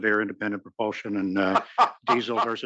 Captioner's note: laugh